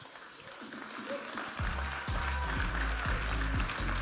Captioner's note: audience applauding and cheering; upbeat music